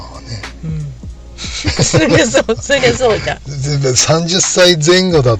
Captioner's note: laughs